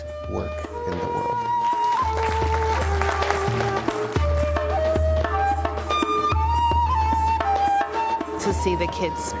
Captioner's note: applause